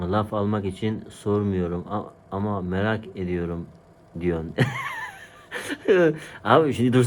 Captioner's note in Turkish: kahkaha